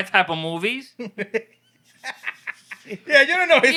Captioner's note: laughing